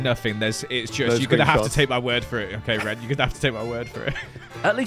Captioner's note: laughs